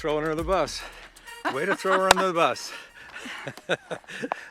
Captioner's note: laughing